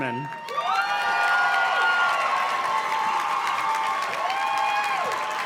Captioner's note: audience cheers and claps